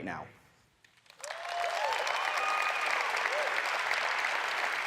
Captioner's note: audience applauds